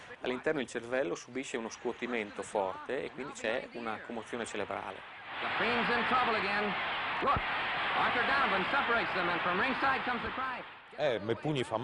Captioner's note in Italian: Applauso